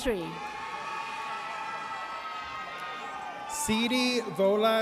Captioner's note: audience cheers